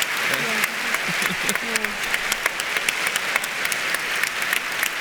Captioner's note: audience applauds